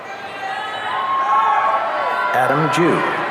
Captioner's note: audience cheering